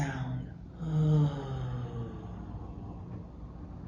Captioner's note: sighs